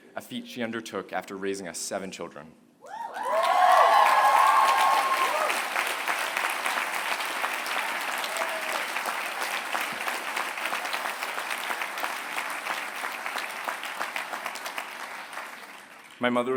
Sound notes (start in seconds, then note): 3.1 applause